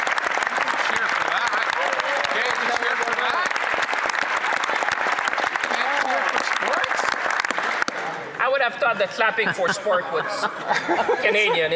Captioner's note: some Applause